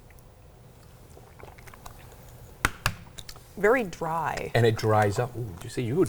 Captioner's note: gulps